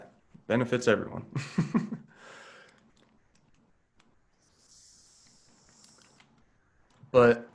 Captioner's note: laughs